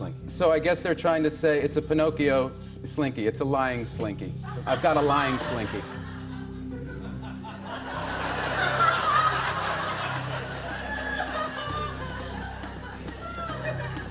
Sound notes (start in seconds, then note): 7.3 laughter